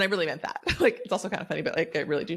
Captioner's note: chuckles